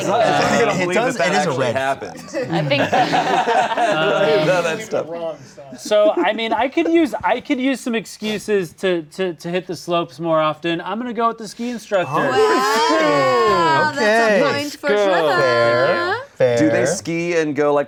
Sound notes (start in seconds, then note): 2.3 laughing